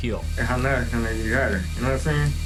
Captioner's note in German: Murmelt